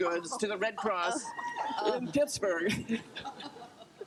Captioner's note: group laughter